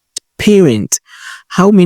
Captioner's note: voiceover